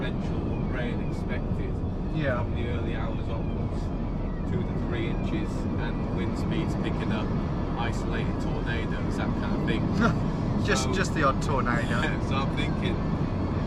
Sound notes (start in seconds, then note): 10.6 scoffs; 11.9 chuckles